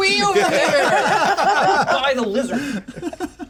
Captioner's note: laughter continues